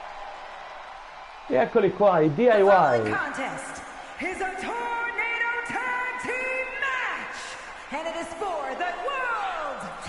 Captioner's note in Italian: Applauso